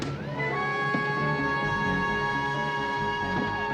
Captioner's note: sirens